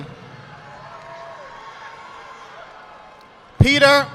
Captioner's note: audience applauding